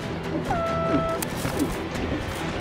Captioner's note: foghorn blows